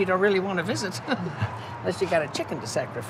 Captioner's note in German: lacht